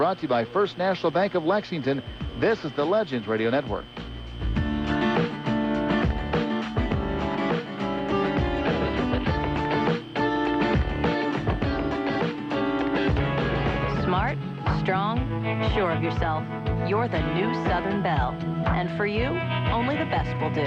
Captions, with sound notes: LOOK WHAT I HAD INSTALLED. [whirring] A SECRET REVOLVING WALL. GUYS, HURRY UP! ALWAYS WORTH IT.